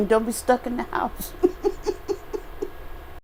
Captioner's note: laughter